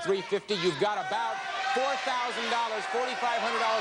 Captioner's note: audience shouting